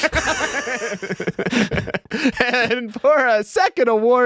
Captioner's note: laughing